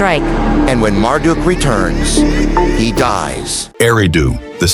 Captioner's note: dark thunder rolling behind him